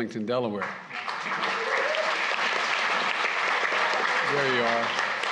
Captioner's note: applause